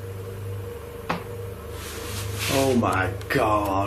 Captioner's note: tapping